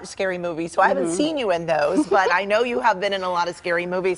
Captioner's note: laughter